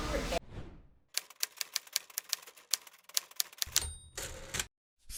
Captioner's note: typewriter typing